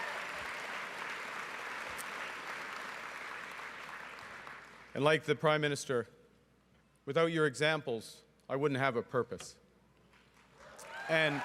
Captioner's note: cheering and Applause